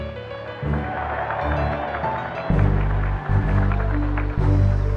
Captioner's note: cheers and applause